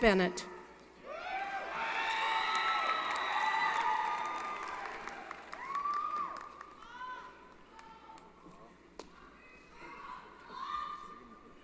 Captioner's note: applause & Cheering